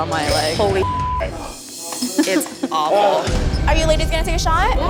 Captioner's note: beep